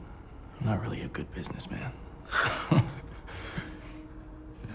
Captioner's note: both chuckle